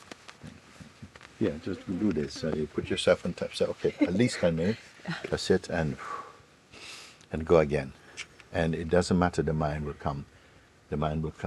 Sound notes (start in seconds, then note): 6.7 exhales